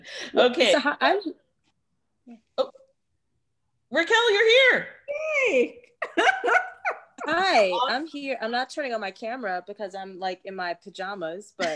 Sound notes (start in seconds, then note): 6.0 laughs